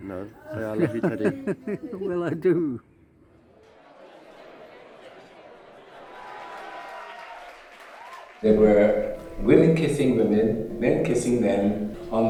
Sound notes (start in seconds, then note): 0.3 laughs; 5.8 crowd applauds